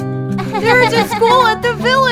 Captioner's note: Acela giggling